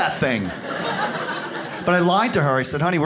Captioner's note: audience laughs